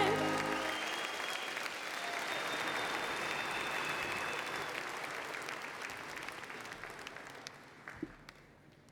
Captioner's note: applause and Cheering